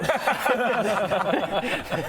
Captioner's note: impossible laugher